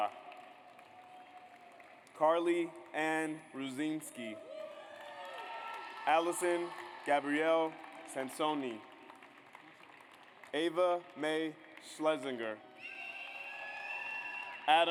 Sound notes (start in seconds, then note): 0.0 audience applauds; 4.5 audience applauds; 9.1 audience applauds; 12.7 audience cheers